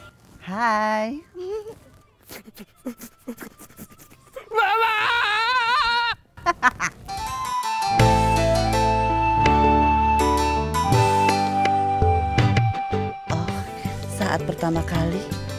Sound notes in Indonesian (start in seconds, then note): 6.4 tertawa